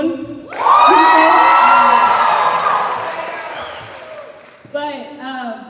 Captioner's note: cheers and applause